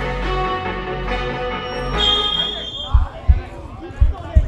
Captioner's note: whistle